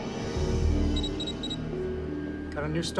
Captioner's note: machine beeps